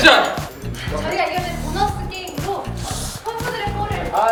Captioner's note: heavy breath